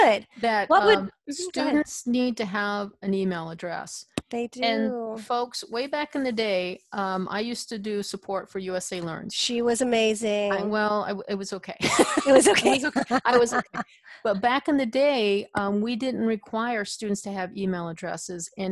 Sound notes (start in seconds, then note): 11.9 laughs